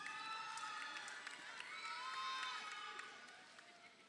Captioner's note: crowd cheering